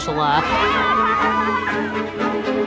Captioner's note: laughing